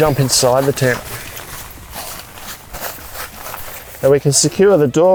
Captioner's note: tent shuffling